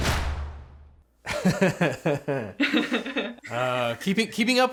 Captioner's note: drums beat; host laughs; laughs